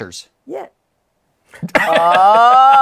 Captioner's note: laughter